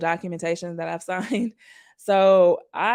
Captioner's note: chuckles